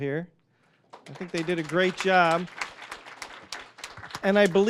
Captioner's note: applause